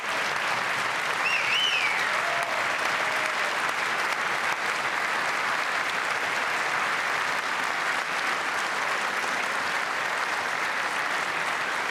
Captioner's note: applause